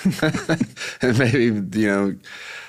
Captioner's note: laughs